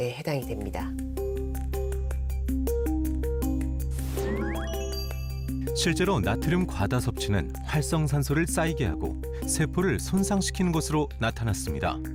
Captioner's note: voiceover